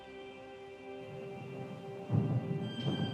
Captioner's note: thunder rumbles